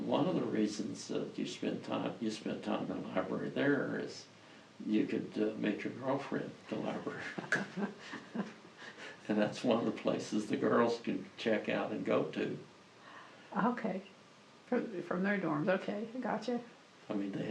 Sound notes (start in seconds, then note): 6.7 laughs